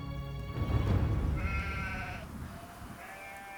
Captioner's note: bleating